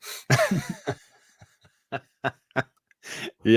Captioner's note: laughter